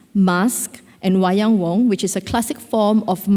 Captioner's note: speaks Indonesian